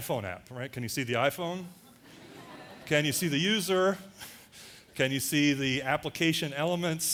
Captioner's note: audience laughter